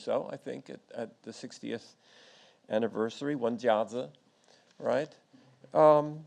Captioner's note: speaks in foreign language